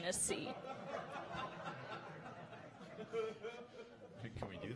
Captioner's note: audience laughing